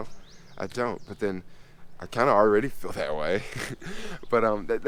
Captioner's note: laughs